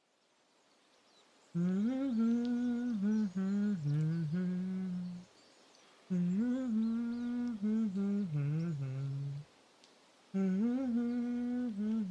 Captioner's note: subpar humming